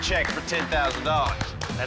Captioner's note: applause